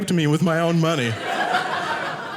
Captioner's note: audience laughing